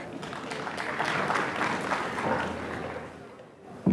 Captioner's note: applause